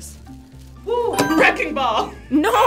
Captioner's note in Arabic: قرعات الجرس